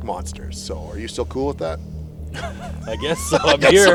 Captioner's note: laughs